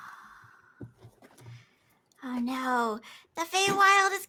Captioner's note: group sighs